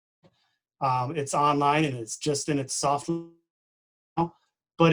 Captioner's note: distorted speaking